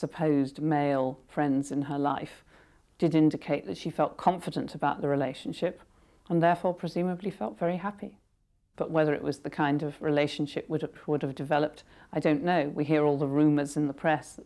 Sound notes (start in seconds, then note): none